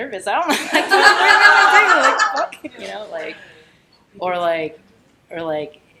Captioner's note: everyone laughing